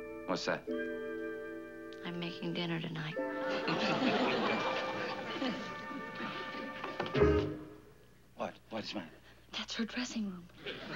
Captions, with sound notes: What's that? I'm making dinner tonight. (laughing) -What, what's the matter? -That's her dressing room.